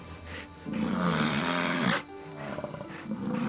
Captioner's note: bison grunting